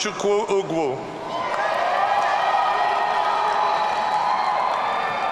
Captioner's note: audience cheering